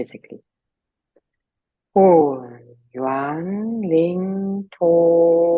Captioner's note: speaking in foreign language